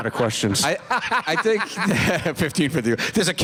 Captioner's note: laughter